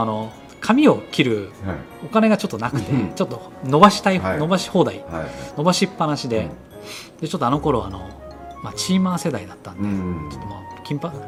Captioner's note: laughs